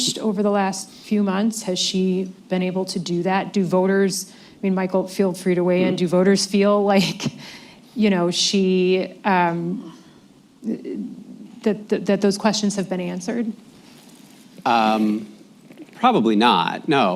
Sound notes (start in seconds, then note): 8.9 laughs